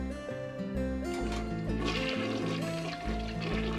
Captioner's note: elongated toilet flush